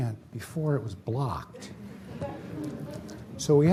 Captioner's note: laughter